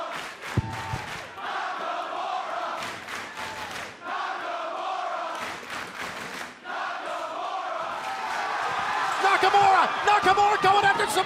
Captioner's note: fans chanting